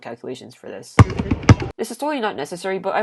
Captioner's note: basketballs bouncing